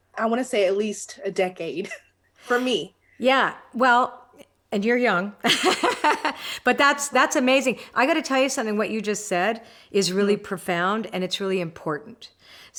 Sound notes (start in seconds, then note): 5.4 laughs